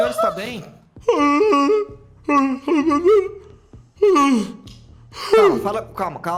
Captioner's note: grunting